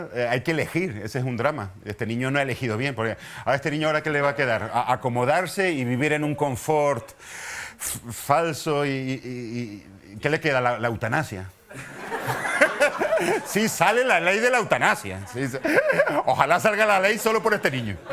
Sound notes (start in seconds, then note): 11.6 laughter